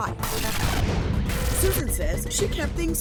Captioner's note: static noise